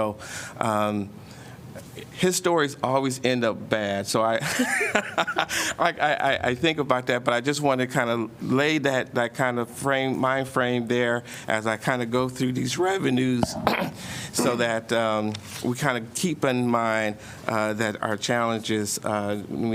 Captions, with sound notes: So, um, histories always end up bad, so I [LAUGHTER] I- I think about that, but I just wanted to kind of lay that- that kind of frame- mind frame there as I kind of go through these revenues so that, um, we kind of keep in mind, uh, that our challenges, uh,